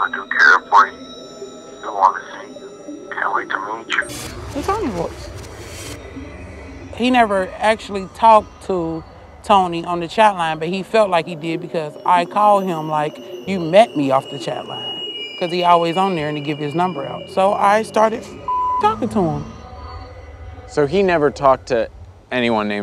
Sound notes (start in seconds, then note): 18.0 beep